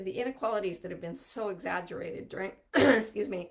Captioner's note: coughing